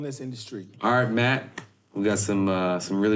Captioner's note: clapping hands once